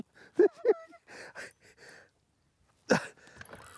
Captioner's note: chuckles